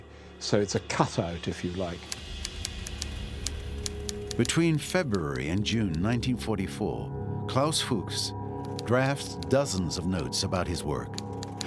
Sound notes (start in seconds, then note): 2.0 typewriter clicking